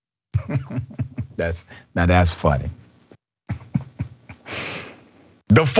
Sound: laugh

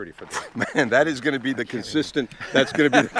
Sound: laughing

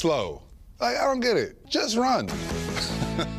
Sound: laughs

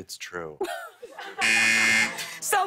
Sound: buzzer

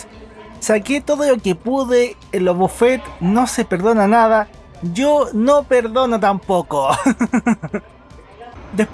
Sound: laughs

